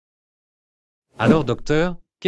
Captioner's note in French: FX - Whoosh - 03